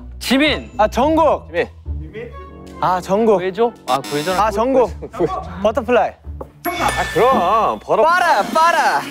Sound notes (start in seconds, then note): 6.7 ding dong